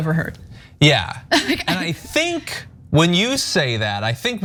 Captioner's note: laugh